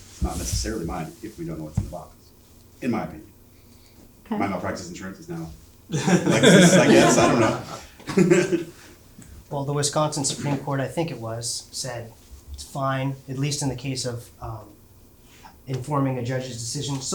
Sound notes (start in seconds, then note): 5.9 audience laughing